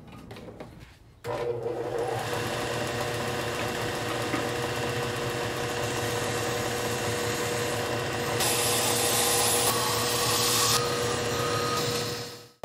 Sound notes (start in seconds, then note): 1.2 sanding noise